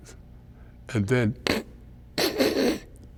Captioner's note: mimics classmate snickering